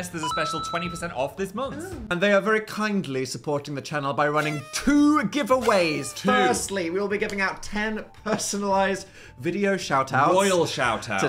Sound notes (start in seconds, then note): 5.6 party horn honking